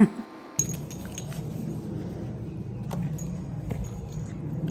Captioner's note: laughing; metal jingling